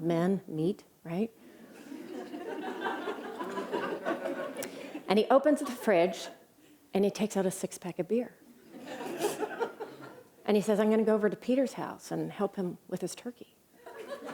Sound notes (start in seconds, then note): 1.7 laughter; 8.6 laughter; 13.8 laughter